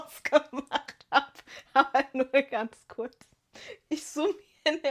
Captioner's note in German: gelächter